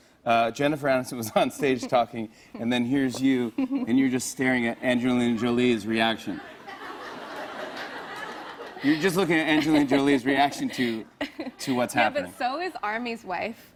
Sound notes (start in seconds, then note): 6.4 laughter